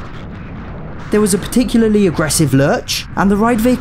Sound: unsettling slowed-down audio

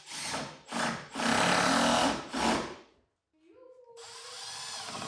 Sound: drill whirring

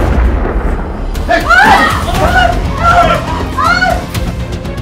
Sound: screaming

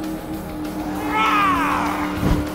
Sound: roaring

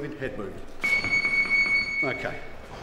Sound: chiming

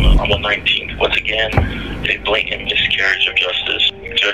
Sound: A gavel hits a sound block and echoes

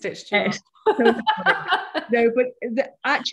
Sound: laughter

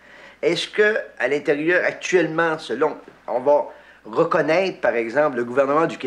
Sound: speaking in foreign language

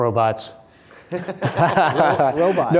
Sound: laughter

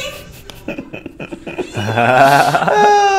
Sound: both laughing

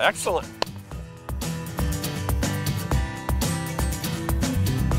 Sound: slapping

